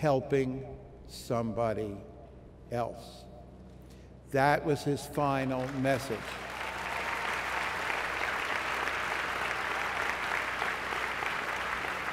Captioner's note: applause